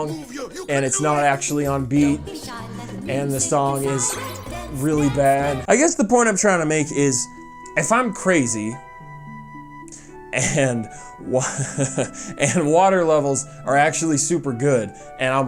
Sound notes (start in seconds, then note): 11.3 laughs